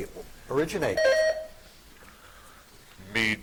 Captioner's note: buzzer chiming